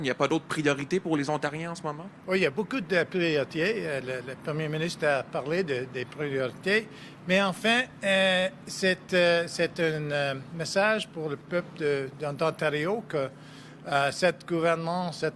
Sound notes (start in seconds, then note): 0.0 speaking French; 4.4 speaking French